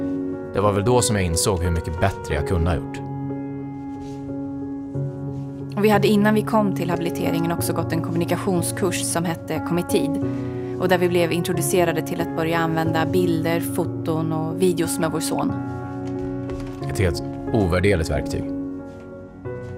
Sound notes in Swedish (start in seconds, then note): 17.0 Mansröst